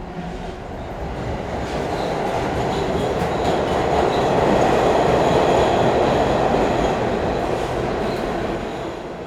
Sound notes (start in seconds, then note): 0.9 subway rattling